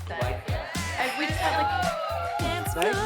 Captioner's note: indistinct chatter; cheering